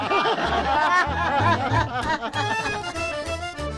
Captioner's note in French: Rires